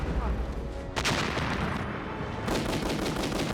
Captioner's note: exploding; guns firing